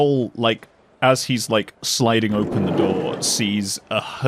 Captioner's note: train door opens; station ambience and crowd noises get louder